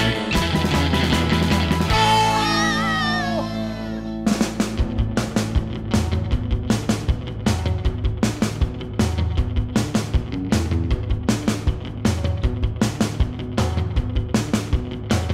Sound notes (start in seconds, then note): 1.9 cheers; 4.3 background music